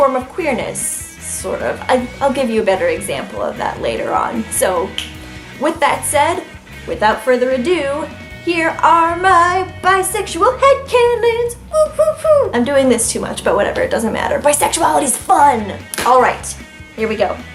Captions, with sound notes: of queerness, sort of. I'll give you a better example of that later on. So, with that said, without further ado, here are my bisexual head canons! [excited wooing] I'm doing this too much, but whatever, it doesn't matter. Bisexuality is fun! Alright, here we go.